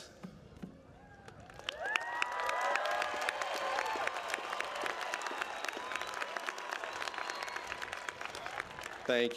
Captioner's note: applause